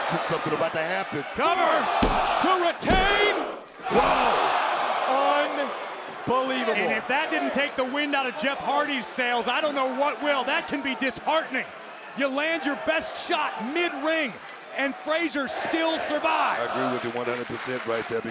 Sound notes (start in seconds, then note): 2.0 hand pounding